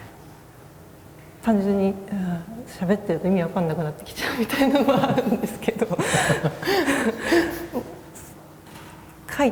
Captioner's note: laugh